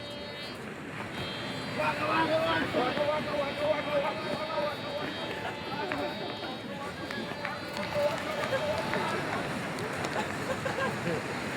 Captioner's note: metal Detector Pinging; Students Making Pacman Sound; people Laughing